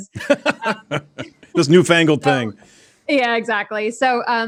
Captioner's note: laughs